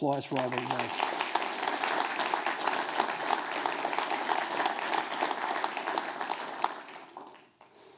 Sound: applause

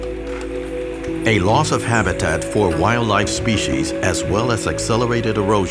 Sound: rainforest ambience

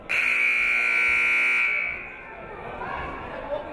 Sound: buzzer buzzes

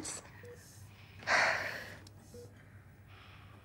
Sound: exhales

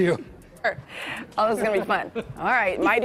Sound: laughter

